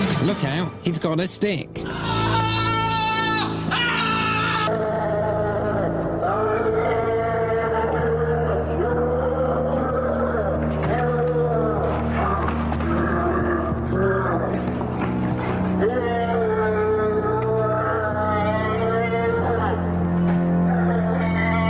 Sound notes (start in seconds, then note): 1.9 aaaaaahh; 4.7 shouting, yelling, hitting, beating; 18.7 screaming, jostling, running, defeating